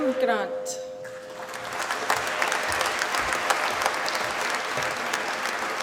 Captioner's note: applause